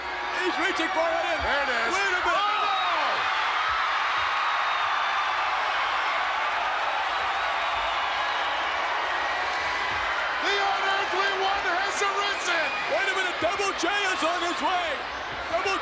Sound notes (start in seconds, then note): 4.1 crowd cheering